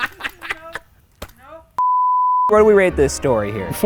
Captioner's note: laughing; beeps